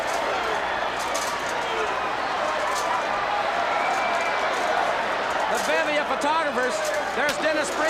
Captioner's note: crowd chatter